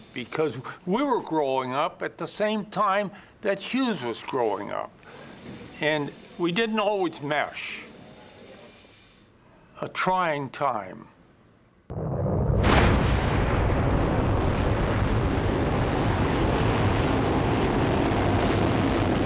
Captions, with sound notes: because we were growing up at the same time that Hughes was growing up. And we didn't always mesh, a trying time. [rocket roaring]